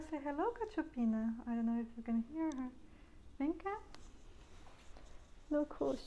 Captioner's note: speaking in portuguese